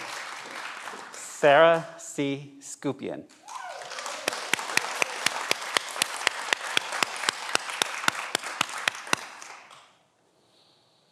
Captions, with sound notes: - Sarah C. Skupien. (everyone applauds)